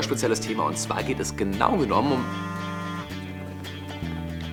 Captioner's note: Telefon summt